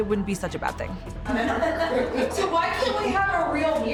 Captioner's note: laughing